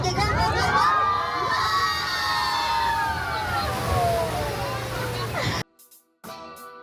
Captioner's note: everyone cheers!